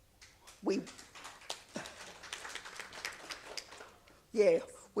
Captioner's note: audience applauds